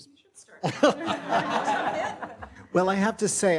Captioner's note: everyone laughs